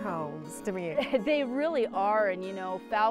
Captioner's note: chuckling